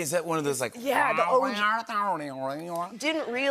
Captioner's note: imitating talk box